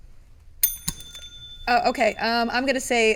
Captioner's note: ding